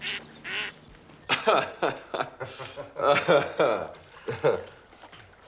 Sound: laughter

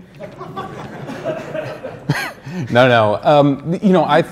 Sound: crowd laughing

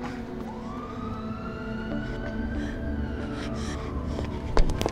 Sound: siren playing

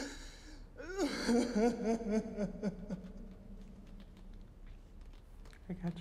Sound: sobbing echoing

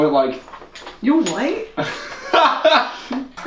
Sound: mock shocked; Agatha laughs

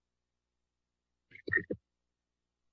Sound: static sound

